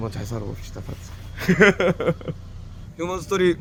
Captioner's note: laughs